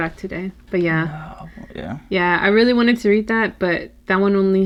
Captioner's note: whispers